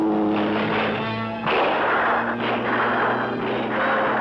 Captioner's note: gunshots